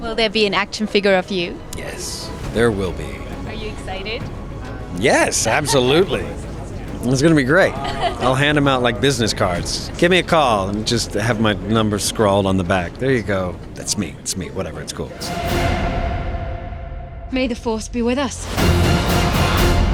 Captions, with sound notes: - [Voiceover] Will there be an action figure of you? - Yes, there will be. - [Voiceover] Are you excited? - Yes, absolutely. It's gonna be great. I'll hand them out like business cards. Give me a call and just have my number scrawled on the back. There ya go. That's me, that's me, whatever, it's cool. - May the force be with us.